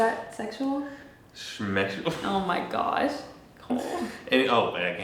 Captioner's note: chuckles